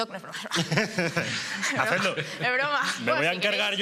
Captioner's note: they laugh